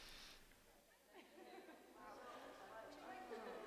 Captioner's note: woman laughs